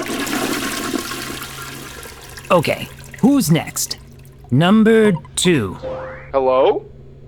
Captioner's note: flushing noise